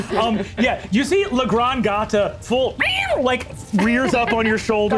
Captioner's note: laughs; screeches